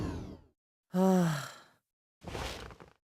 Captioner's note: sigh